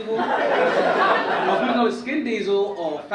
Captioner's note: audience laugh